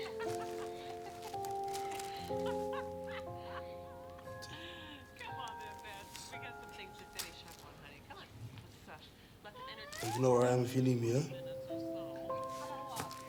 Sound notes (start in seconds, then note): 0.0 characters laughing; 0.0 plastic rustling; 5.3 characters chattering indistinctly; 12.3 hand thudding